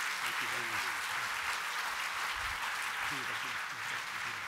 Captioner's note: applause